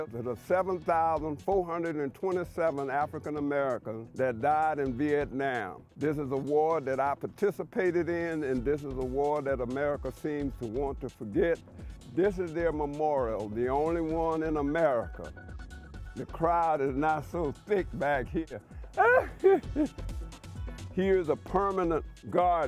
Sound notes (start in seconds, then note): 18.9 laughing